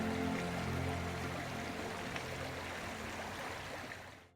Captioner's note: brook babbling